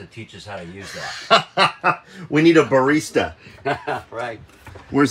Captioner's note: laughing; laughs